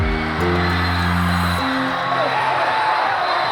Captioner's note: cheering